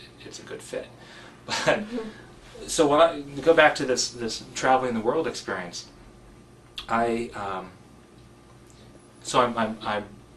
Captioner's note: laugh